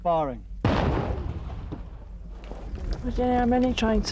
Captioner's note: landmine explodes